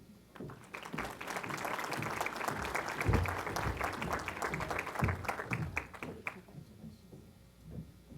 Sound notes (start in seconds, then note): 0.3 applause